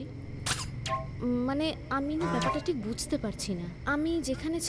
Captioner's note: voice echoed